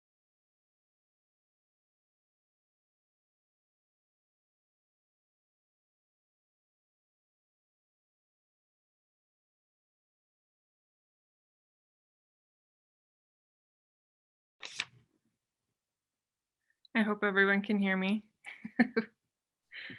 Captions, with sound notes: - I hope everyone can hear me (laughs).